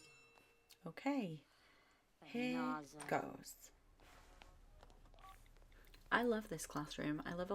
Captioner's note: the bell